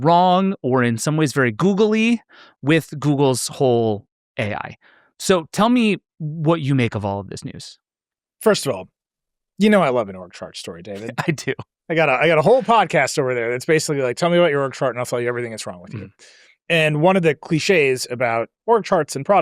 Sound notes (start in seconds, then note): 10.9 laughs